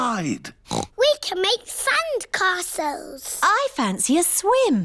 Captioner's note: oinks